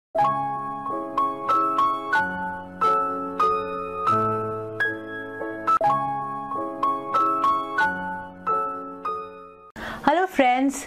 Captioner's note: Hindi